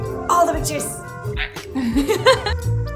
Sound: laughter

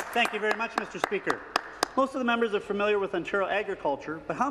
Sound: some Applause

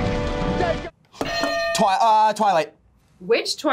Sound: bell rings

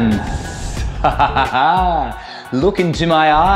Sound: laughs

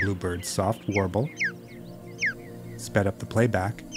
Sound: bluebird warbling

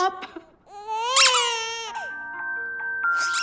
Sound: baby crying

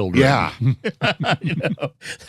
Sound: laughter

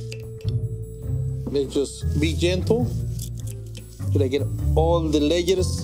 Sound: knife tapping; spaghetti buns crackling

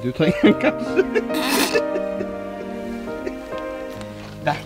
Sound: both laughing

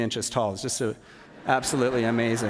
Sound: laughter

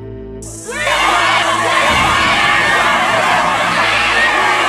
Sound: rioters yelling

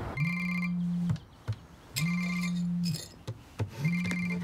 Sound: cell phone ringing

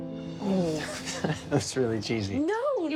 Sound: laughs

